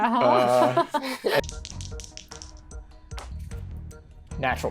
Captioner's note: suspenseful music; dice rattling